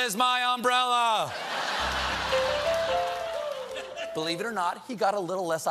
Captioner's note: laughter; piano riff